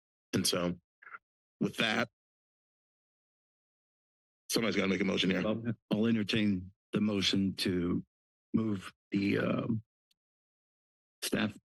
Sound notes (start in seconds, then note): none